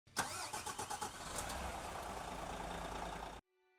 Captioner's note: car revving